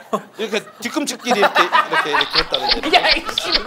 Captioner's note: laughing